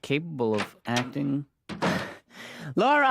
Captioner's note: door opens